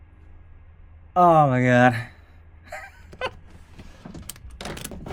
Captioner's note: laughs